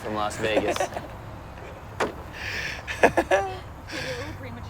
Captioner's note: laughs